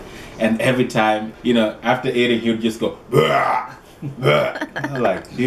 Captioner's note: burp, Burp